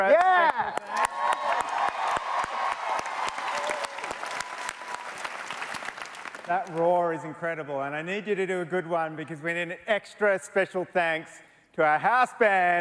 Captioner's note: cheers and Applause